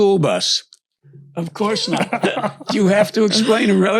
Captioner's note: laughs